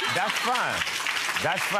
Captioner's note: audience laughter